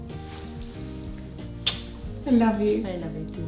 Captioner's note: both giggles; gentle music; kissing